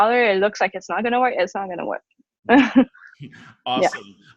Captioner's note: laughs